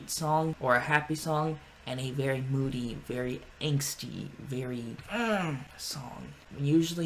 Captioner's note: grunts